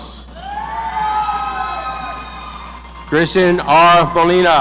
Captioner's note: audience cheering